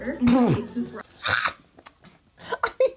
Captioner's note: laughing